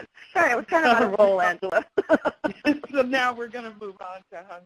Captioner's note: laughs